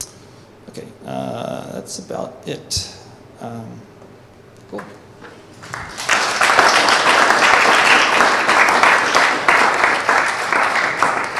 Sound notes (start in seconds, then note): 5.6 applause